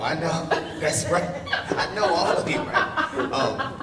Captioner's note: laughs